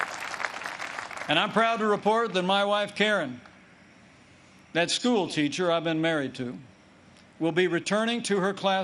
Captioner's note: applause